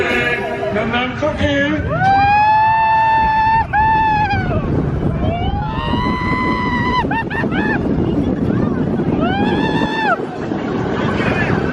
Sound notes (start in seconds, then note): 2.5 screaming